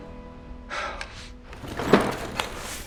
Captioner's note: Jez exhaling; cabinet rolling